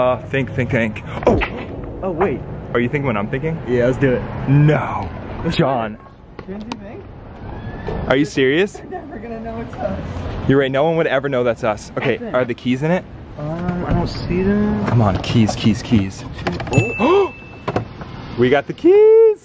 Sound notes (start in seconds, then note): 16.7 bell dings